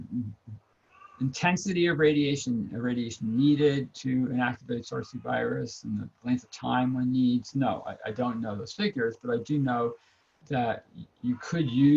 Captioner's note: cat meows